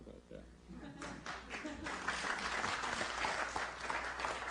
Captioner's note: laughter, applause